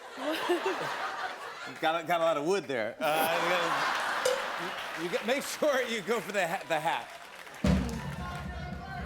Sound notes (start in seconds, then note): 0.0 laughter; 3.0 laughter; 4.2 cow bell clangs